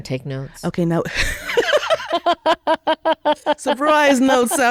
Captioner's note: both laughing